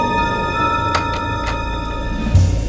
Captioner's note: Door opens